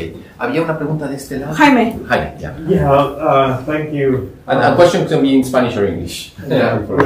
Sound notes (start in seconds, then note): 0.6 speaking spanish